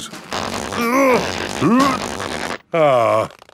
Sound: grunting

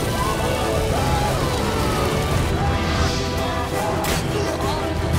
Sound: flames crackle; screams

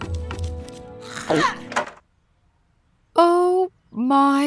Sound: man screaming

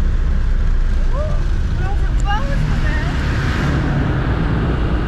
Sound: chattering

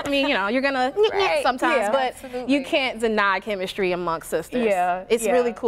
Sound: laughter

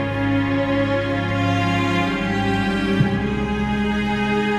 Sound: none

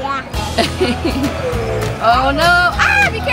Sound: laughs

